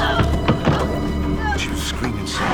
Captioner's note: Jenny screaming